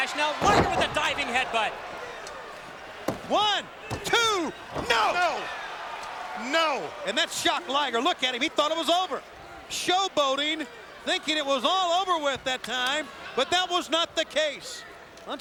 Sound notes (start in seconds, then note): 3.1 mat slapping